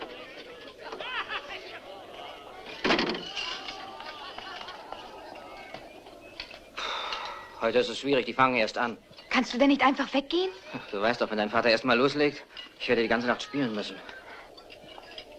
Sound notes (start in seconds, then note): 0.0 laughter, chatter; 6.7 sighs; 13.1 laughs